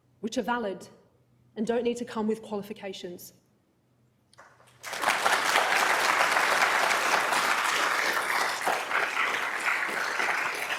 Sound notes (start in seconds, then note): 4.7 crowd applauding